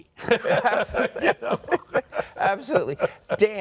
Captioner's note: all laughing